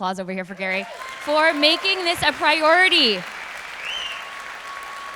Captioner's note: audience applause